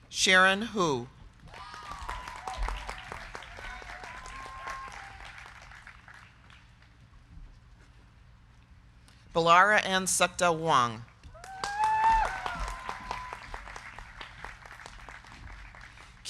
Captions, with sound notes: Sharon Hu. (crowd cheering) (crowd clapping) Bellara Ann Sakda Huang. (crowd cheering) (crowd clapping)